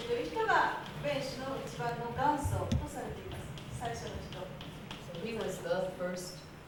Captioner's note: speaking Japanes